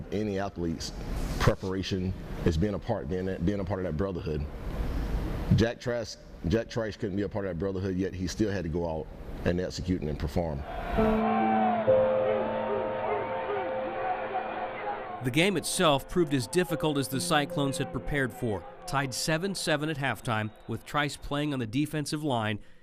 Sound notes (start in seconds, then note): 11.0 sober music; 13.8 crowd cheering